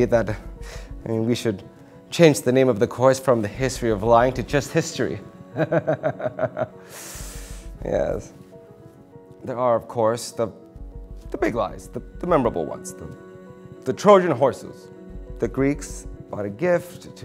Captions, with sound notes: that, I mean, we should change the name of the course from The History of Lying to just History (laughs). Yes. There are, of course, the big lies. The memorable ones. The Trojan Horses, the Greeks brought a gift